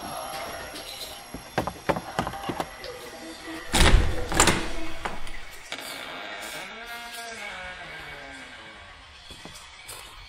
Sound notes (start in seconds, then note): 1.3 stairs bouncing underfoot; 1.4 door opening; 6.0 door squeaking